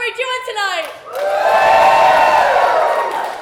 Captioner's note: more applause